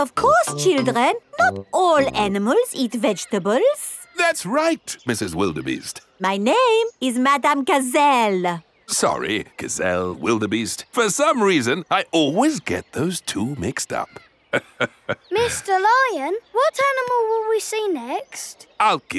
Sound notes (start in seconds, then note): 14.5 laughs